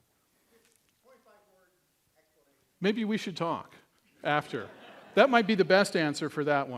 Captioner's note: laughter